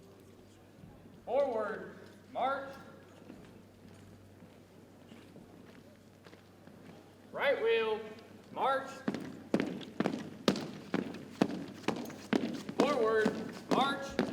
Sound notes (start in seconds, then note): 9.0 boots thumping